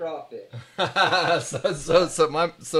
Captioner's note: laughing